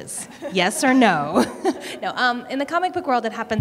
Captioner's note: laughter